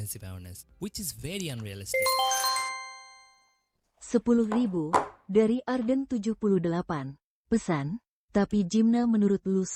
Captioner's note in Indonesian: lonceng